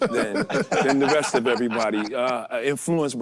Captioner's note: group laughing